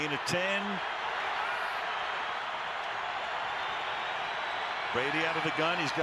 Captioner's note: crowd cheering